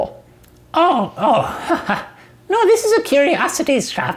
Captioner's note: laughing